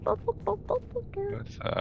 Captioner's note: imitates a dog barking